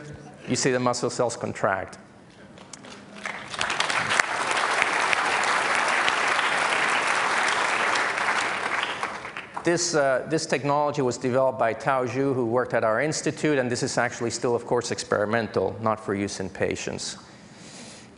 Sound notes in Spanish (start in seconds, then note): 2.8 Aplausos